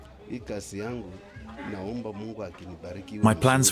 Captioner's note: speaking in non-English